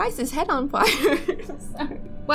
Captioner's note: laughing